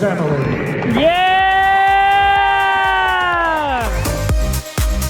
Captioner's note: audience cheering; upbeat music